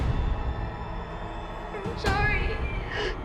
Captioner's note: crying